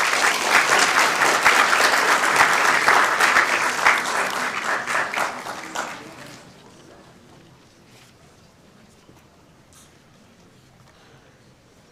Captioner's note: applauding